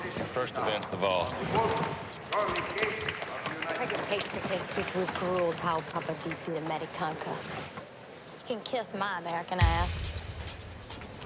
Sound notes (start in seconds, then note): 4.4 speaking romanian